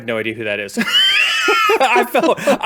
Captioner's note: laughing